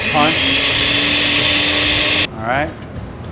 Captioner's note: blender whirring